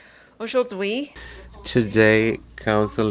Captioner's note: speaking in French